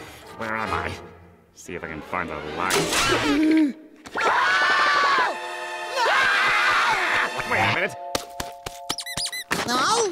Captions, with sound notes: Where am I? See if I can find a light. [gasping] [screaming]